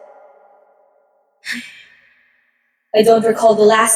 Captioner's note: The Empress gives a small sigh